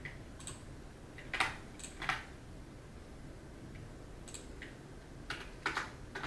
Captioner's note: computer mouse and keyboard click